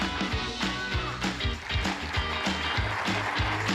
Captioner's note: applause